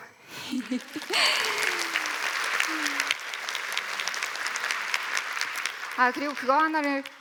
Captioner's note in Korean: 박수